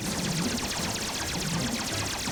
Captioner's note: weapons fire rapidly